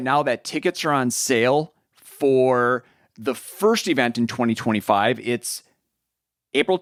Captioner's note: none